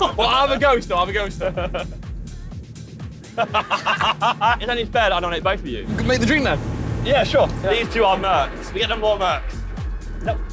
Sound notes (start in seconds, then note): 3.2 laughing